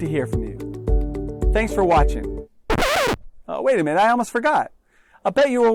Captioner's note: record scratch!